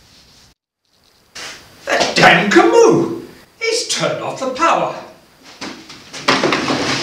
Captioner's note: crashing noises as Grand stumbles about in the dark